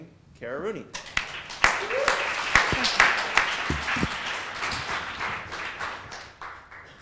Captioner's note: applause